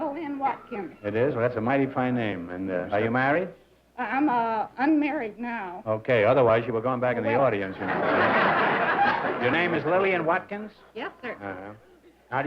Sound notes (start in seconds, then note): 7.7 laughter